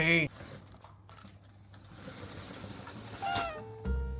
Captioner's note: shutter rattling; bright jazzy music; cat meows